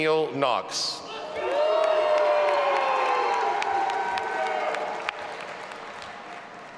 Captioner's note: audience applauding and cheering